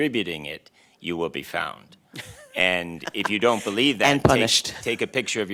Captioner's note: laughter